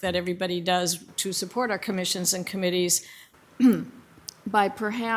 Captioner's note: clears throat